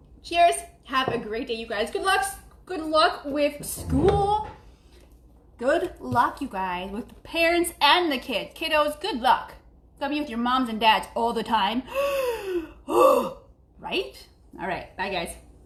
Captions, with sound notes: cheers have a great day you guys. Good luck with school. Good luck you guys with the parents and the kids. Kiddos good luck. Go be with your your moms and dads all the time. (gasping) Right? All right, bye guys.